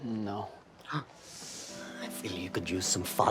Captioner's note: Trixie gasps